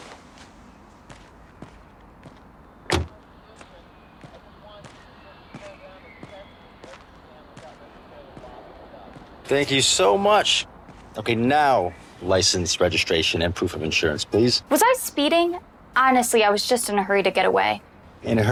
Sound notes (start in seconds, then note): 1.1 footsteps thudding; 2.8 car door slamming